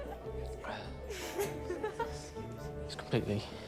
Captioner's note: laughing